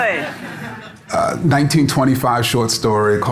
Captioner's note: audience laughing